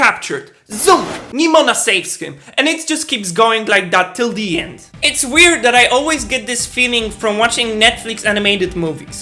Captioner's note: zoom sound